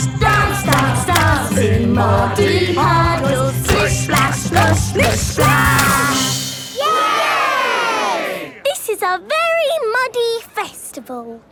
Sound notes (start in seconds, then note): 6.8 all cheering